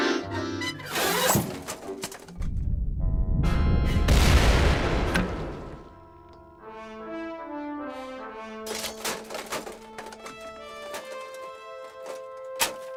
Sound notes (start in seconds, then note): 3.2 deep rumble and explosion